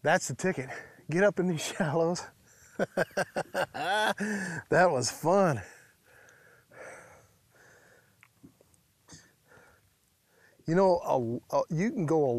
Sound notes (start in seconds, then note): 2.7 laughs